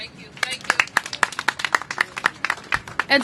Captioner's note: applause